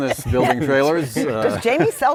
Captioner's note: laughter